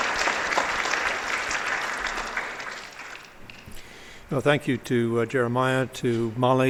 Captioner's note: applause